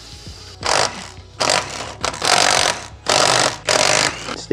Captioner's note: drill whirring